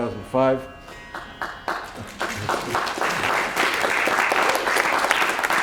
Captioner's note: applause